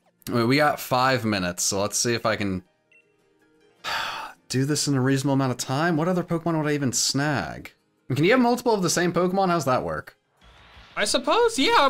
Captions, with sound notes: We got five minutes. So let's see if I can, (exhales sharply) do this in a reasonable amount of time. What other Pokemon would even snag? Can you have multiple of the same Pokemon? How's that work? - I suppose, yeah.